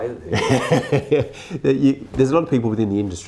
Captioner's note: laughing